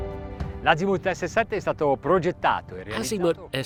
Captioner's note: speaking foreign language